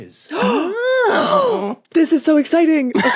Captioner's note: guests gasping